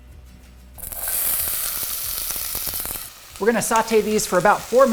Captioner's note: onions sizzling